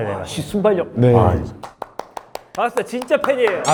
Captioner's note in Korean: 박수